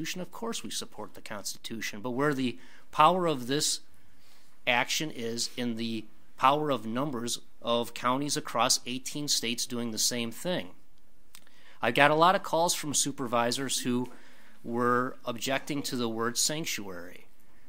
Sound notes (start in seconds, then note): none